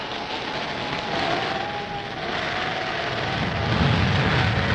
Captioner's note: wind howling